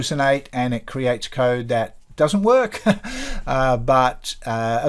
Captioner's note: chuckles